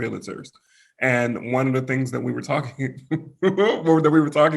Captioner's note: laughs